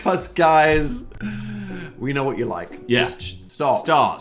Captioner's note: laughing